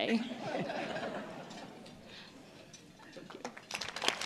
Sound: laughter; applause

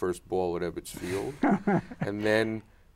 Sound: laughs

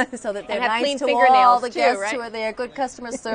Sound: laughter

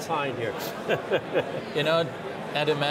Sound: laughing

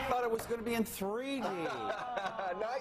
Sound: laughs

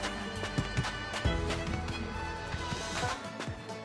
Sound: steps

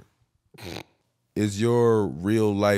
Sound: snorting

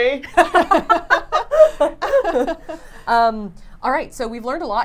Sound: laughing

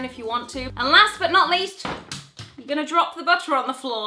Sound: butter thuds

